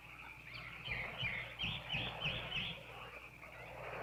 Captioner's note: birds chirping